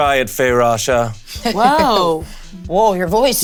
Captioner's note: Bug chuckling